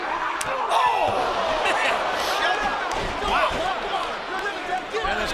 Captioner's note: laugh